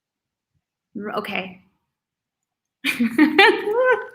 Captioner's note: laughs